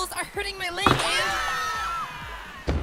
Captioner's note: scream